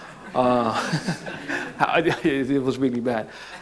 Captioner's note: crowd laughs